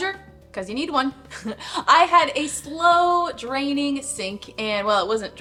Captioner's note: laughing